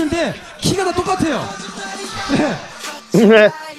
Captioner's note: laugh